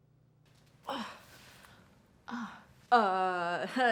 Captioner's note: Alex groaning